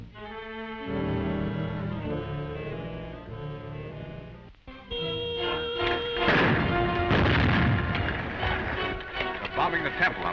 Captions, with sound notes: (explosions booming) (dramatic music) - They're bombing the temple.